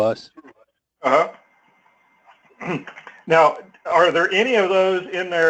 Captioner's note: cough